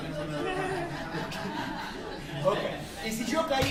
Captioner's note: laughter